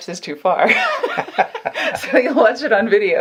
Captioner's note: laughing